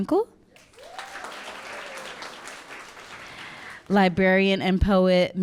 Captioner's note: audience clapping and cheering